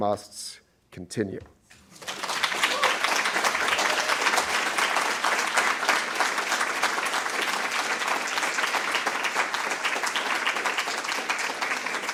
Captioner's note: applause